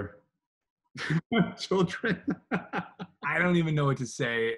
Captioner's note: laughs